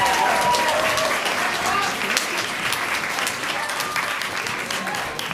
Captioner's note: applause